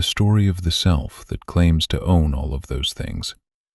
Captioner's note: soft voice